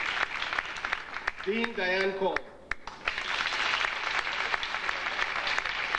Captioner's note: audience applauding